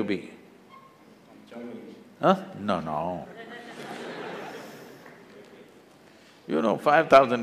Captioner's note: laughter; 笑聲